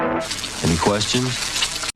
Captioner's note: sizzling